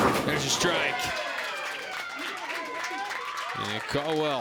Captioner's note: crowd cheers and applauds